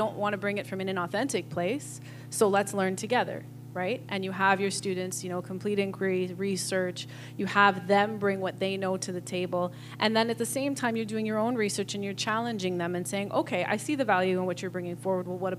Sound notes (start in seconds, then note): none